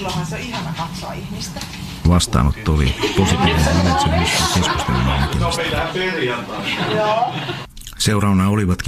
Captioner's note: naurua, huudahduksia